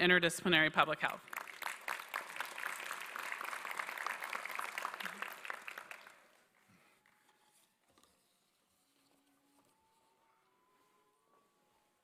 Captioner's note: applause